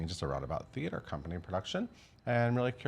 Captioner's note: none